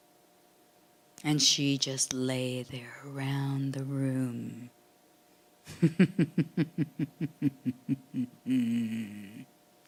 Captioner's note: laughing